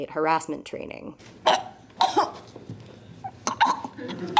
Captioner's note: choking sounds